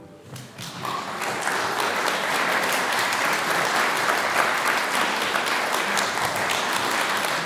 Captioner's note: applause